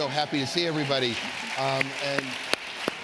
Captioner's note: applause